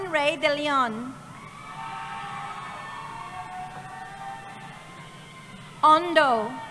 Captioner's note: cheering